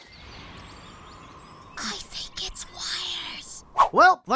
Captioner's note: whispers